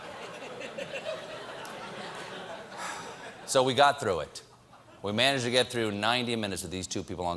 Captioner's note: laughter